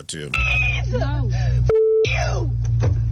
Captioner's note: beep